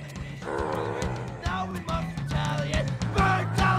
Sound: zombies growling

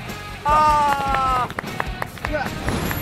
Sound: applause

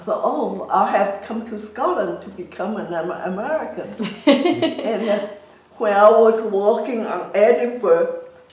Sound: laughs

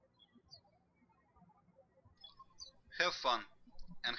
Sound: birds chirping

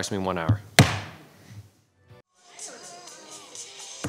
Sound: gavel bangs

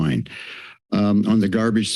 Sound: inhales

